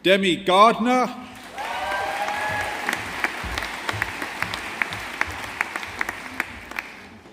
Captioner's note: audience applauding